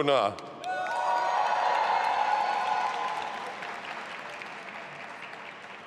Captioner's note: audience applauding and cheering